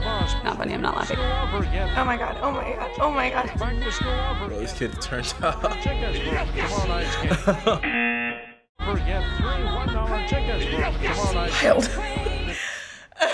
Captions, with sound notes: - It's not funny. I'm not laughing. - Oh my god. Oh my god. Oh my god. - This kid's turnt up. (laughing) (laughing) (buzzer) - I smiled. (laughing)